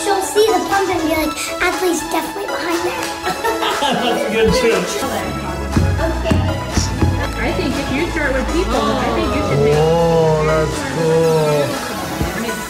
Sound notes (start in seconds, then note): 2.8 laughs